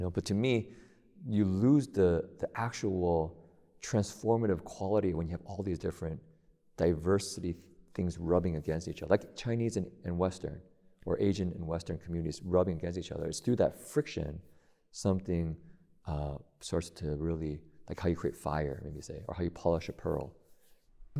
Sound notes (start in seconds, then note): none